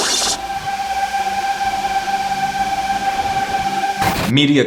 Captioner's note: static